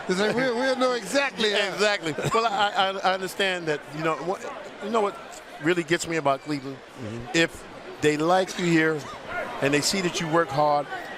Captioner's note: laughing